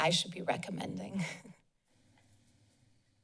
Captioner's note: laughs